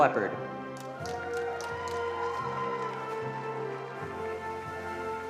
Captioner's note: attendees applauding